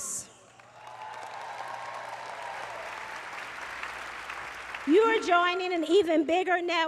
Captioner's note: applause